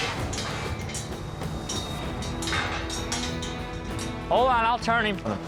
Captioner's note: gate clinking